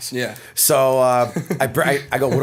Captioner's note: chuckle